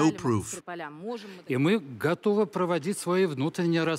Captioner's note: speaking russian